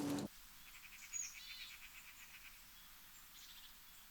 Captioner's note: birds chirp